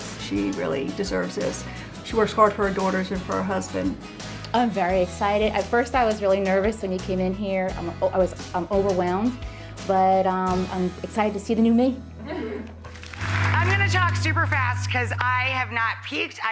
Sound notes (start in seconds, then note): 7.3 stammers; 12.2 women softly laugh